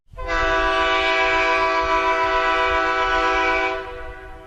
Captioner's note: horn blasts